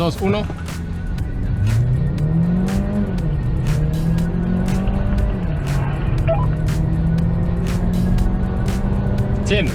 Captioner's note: engine revving